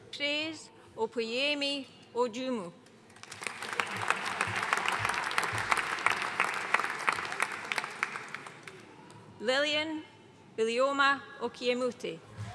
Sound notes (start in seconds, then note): 3.1 audience applauding